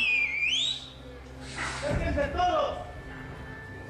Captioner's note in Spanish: Silbido